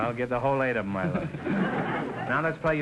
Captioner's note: audience chuckling